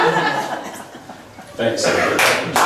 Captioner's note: laughs